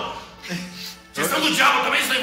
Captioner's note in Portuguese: Risadas